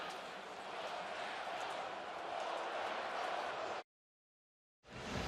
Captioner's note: crowd chanting